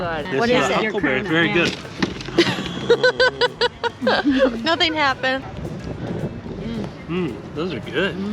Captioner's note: laughter